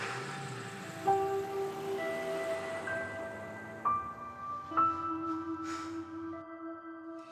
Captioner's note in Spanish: ruido al encender el vehículo; ruido del vehículo al alejarse; exhala